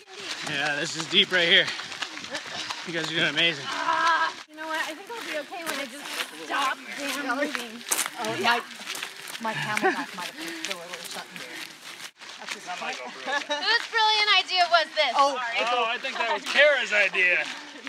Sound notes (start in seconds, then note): 7.7 footsteps crunching on gravel; 10.2 heavy breathing